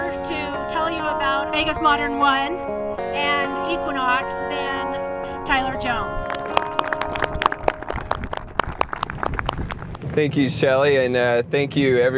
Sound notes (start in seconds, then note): 6.2 audience clapping